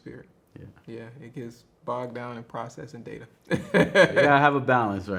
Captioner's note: laughs